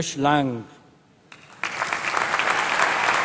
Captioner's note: applause